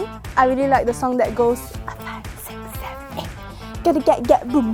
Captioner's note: whispers